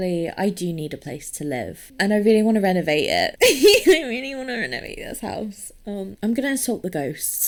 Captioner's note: giggling